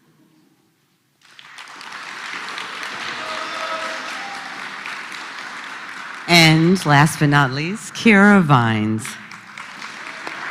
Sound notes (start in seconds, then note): 1.2 applause